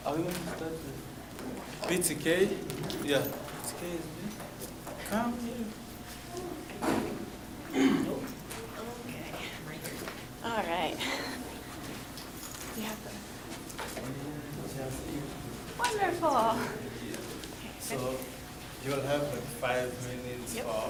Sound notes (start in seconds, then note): 13.9 talking amongst themselves